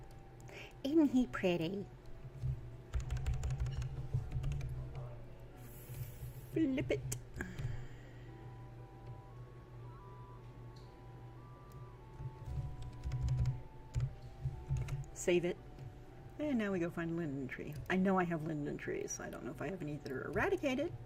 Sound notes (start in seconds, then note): 0.2 silly voice; 9.1 type, click